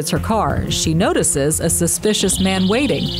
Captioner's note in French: alarm sound